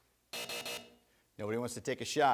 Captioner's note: buzzer rings